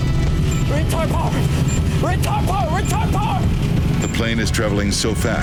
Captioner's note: pilot shouting